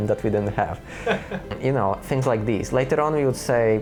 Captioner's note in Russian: смеётся